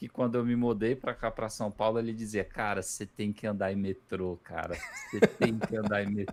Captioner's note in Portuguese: risadas